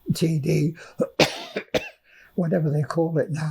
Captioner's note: coughing